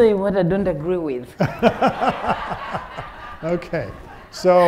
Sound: audience laughing

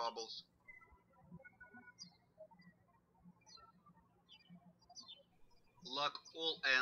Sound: birds chirping

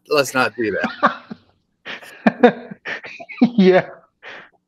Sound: laughter

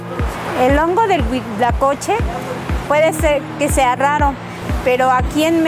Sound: calm, soothing music; speaks in foreign language

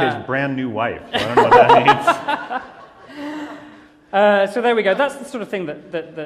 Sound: laughter

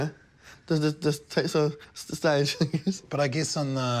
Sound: chuckles

